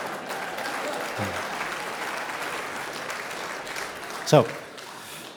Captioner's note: audience clapping